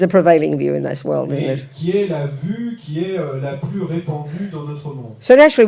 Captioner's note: French